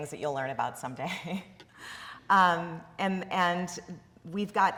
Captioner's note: chuckling